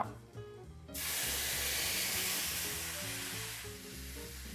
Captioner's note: mixture sizzling